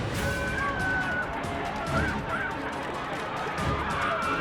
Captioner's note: screams